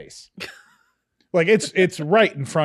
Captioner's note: scoffing